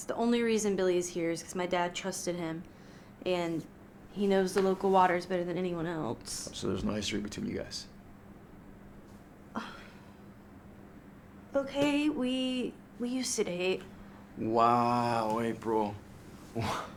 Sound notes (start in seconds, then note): 9.5 April scoffs; 16.5 Miguel scoffs in disbelief